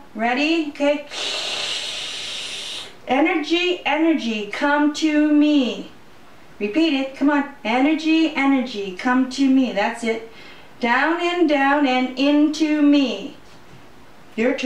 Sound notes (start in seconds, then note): 1.1 sucking sound